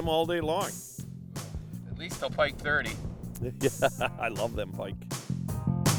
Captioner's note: laughing